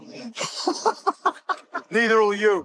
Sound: laughing

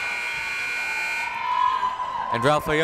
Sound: buzzer

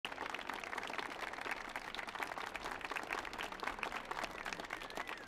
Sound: audience applauding

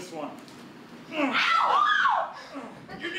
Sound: audience screams

